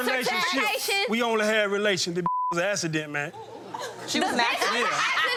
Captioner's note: beep